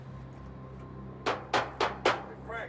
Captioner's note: loud banging